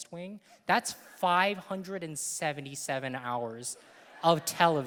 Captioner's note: audience laughing